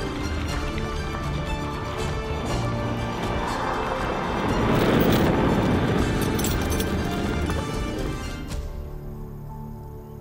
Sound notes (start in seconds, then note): 0.2 tense ominous music; 4.7 chains rattling